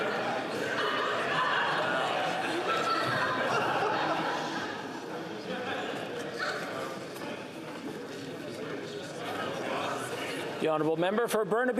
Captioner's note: chatter